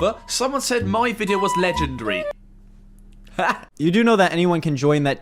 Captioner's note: laughs